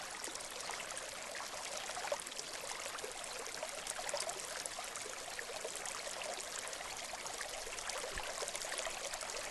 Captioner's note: water flowing